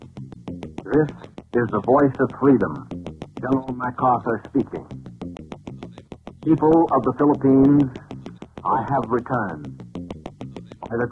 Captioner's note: General Mac Arthur speaking